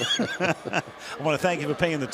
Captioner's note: laughter